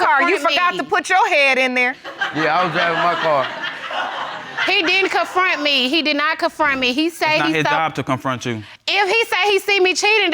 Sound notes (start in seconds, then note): 2.0 laughter